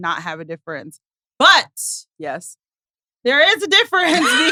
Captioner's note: laughs